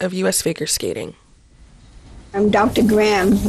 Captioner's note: soundbite of archived recording